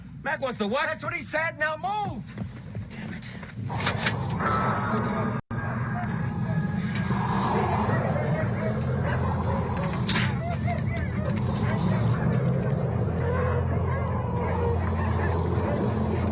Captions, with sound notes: >> Mac wants the what? >> That's what he said. Now move! >> Dammit. [ Dogs Barking and Baying ]